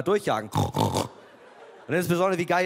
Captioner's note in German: Grunzen